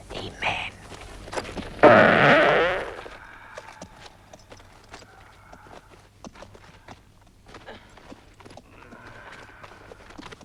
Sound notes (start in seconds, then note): 1.7 Torente farts